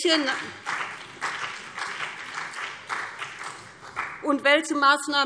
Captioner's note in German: Beifall BÜNDNIS 90/DIE GRÜNEN und CDU